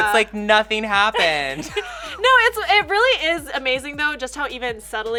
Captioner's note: laughs